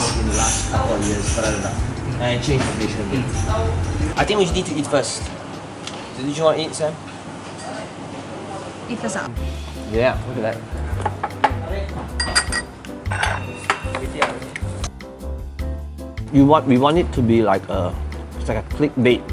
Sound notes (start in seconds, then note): 11.5 relaxing cheerful music; 12.1 tableware clinking